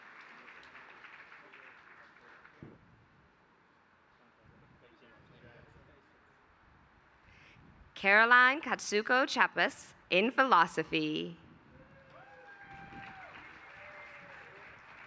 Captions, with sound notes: Caroline Katsuko Chapus in philosophy. [APPLAUSE]